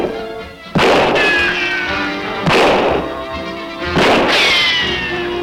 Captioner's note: tense music; guns bang; bullets whizzing; bullet pings; guns bang